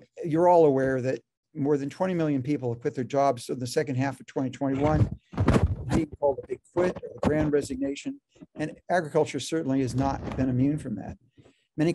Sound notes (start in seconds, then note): 4.7 rasping interference drowns out speaker